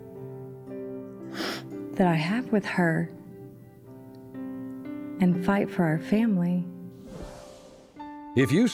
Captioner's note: sniffles